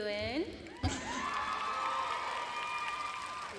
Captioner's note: applause and cheers